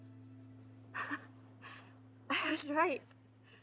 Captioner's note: Keely chuckles